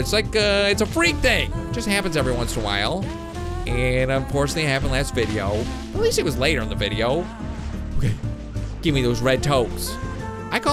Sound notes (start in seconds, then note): none